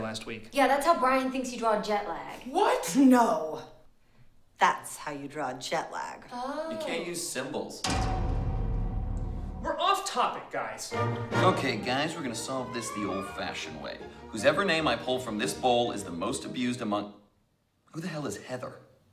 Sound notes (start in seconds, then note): 7.8 clang